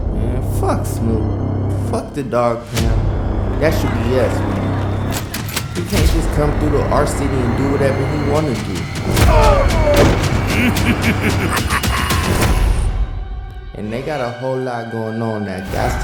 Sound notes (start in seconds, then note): 9.0 groans; 10.1 laughter